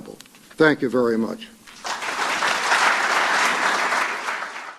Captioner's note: applause